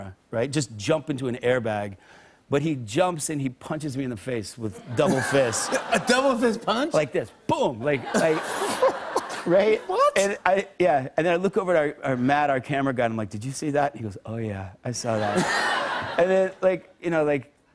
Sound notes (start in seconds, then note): 7.9 laughter; 15.1 laughter